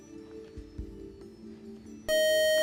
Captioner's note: time out buzzer